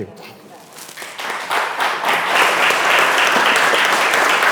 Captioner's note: audience applauding